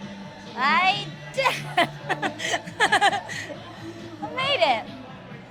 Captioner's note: laughs